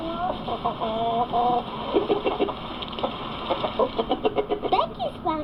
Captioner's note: clucking